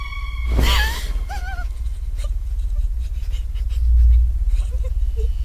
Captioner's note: door creaks open; WOMAN gasps, whimpers